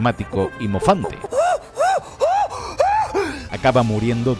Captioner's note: monkey sounds